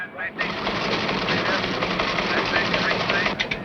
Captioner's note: keys clattering